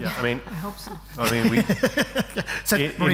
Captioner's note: laughs